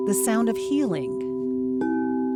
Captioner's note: pleasant, resounding vibrations